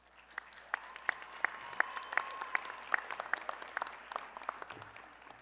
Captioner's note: applause